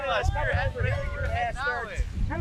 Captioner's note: everyone chattering